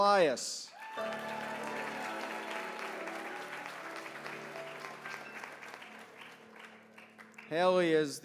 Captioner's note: applause